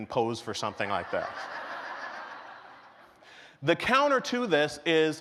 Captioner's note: laughter